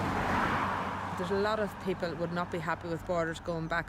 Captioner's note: cars drive